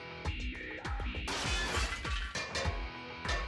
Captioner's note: metallic clanging